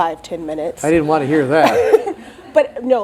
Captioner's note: crowd laughs